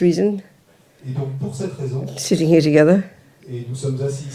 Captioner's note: French